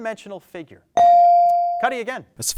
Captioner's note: bell dings